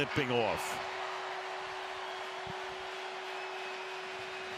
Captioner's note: cheering